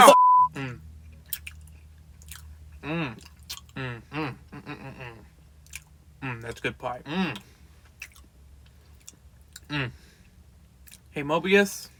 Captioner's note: pie eating sound effects